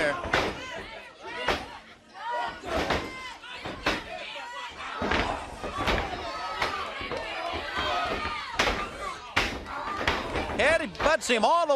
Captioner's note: crowd chatter